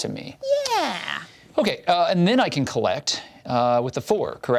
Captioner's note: none